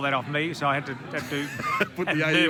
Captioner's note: laughing